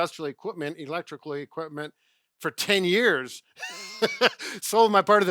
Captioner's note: chuckles